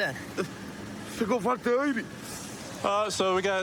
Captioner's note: speaking spanish